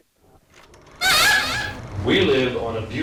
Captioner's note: parrot squawks